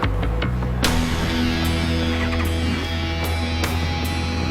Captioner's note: engine starts